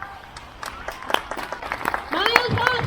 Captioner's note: crowd; crowd cheers